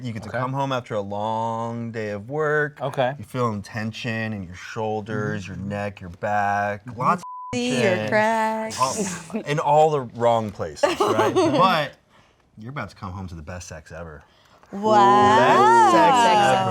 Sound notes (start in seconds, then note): 7.2 beep